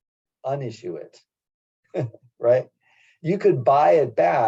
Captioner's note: laugh